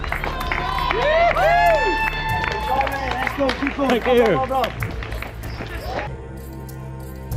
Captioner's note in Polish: Aplauz